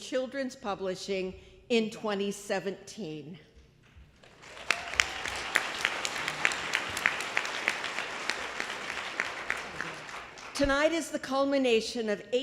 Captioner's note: applause